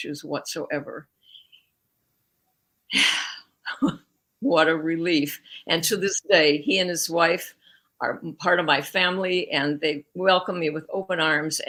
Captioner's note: sighs